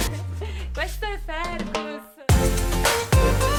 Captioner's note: speaks in foreign language; bright, cheerful music